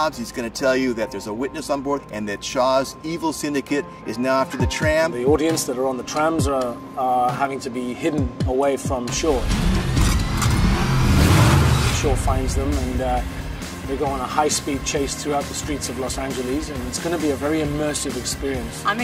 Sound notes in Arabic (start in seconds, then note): 10.8 تسريع المحرك